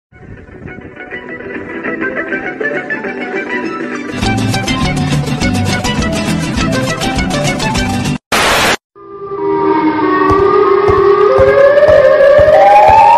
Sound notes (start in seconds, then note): 0.2 happy Music; 8.3 Static